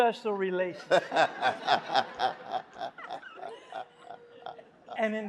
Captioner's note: Cornel laughs